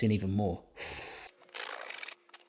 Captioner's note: sucking; knife scratching